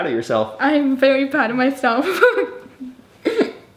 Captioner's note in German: lacht